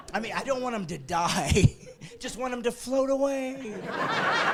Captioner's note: laughing